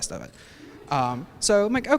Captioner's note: laughter